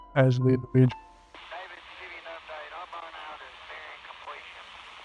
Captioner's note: radio chatter